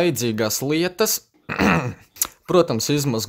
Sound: khem

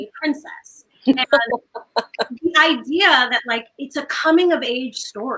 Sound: laughs

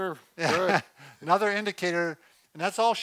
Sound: laughs

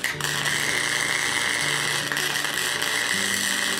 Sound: welding

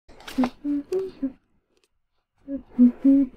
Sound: Poodle hums

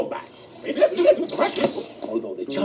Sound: rewinding

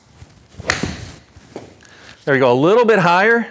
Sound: ball thwacks

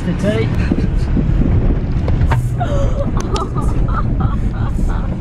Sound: laughing

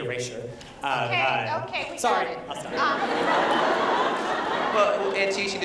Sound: laughter

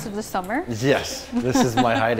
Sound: chuckles

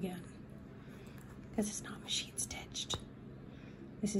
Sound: whispers

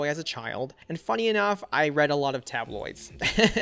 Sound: laughs

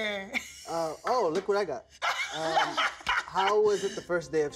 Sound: laughs

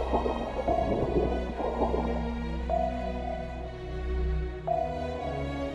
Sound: sonar pings

